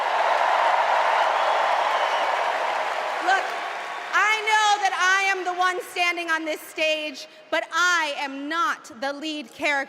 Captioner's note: cheers and applause